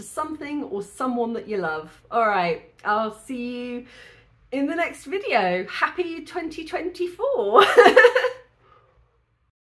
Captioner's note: laughing